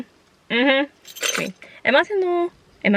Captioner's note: keys rattle